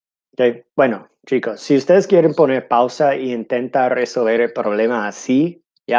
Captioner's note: speaking in foreign language